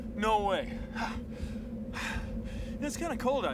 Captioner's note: panting